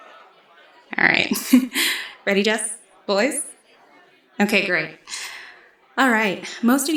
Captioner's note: laughs